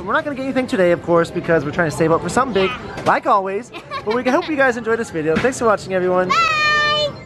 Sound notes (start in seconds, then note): 3.7 laughs